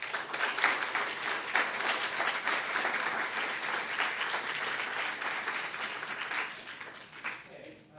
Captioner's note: audience applauds